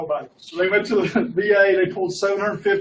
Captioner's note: laughs